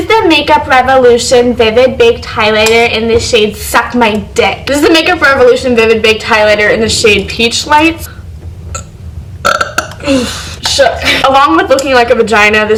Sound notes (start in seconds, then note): 9.4 burp